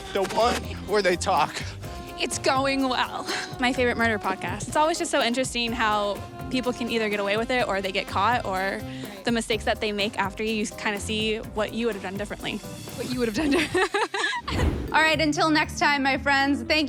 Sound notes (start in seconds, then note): 13.3 laughter; 13.5 soft music playing